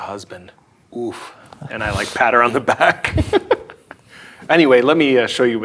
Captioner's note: laughs